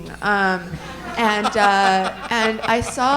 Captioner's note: all laughing